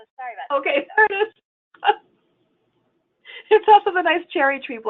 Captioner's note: laughing